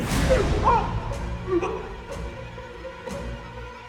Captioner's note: man gagging; intense tempo music